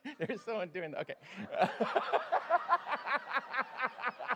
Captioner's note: laughter